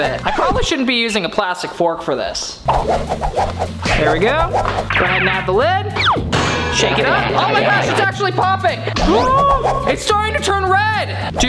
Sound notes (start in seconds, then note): 2.8 stirring, whipping; 6.2 lid slamming